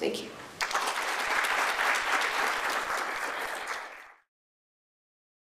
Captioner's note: applause